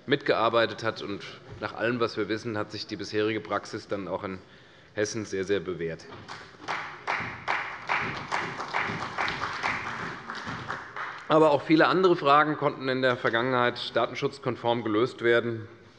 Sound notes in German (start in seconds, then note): 6.3 Beifall bei der CDU